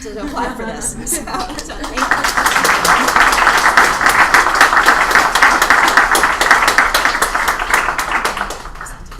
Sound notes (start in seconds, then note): 1.3 applause